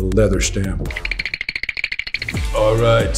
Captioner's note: whirring sound effect